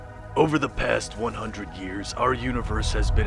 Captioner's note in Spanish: none